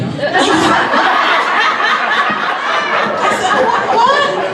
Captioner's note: audience laughs